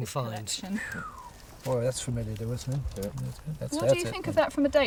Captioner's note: whistles